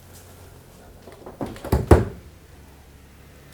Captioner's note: fridge door squakes open